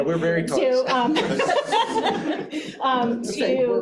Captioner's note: all chuckling